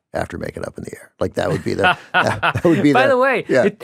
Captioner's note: laughs